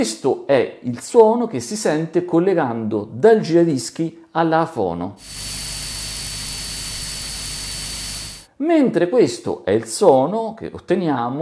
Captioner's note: hum